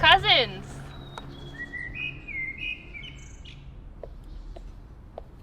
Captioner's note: birds chirping; curious music; birds chirping